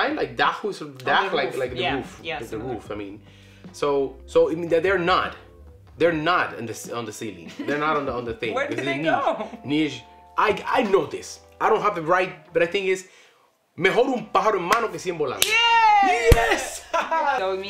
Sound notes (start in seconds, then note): 7.4 laughs; 14.0 speaks Spanish